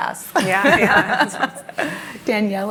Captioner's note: laughter